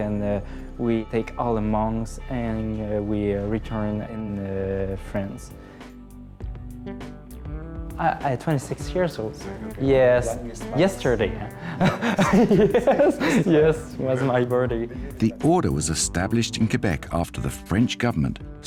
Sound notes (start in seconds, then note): 11.6 laughs